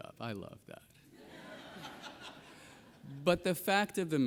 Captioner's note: audience laughs